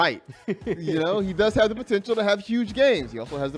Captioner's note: laughter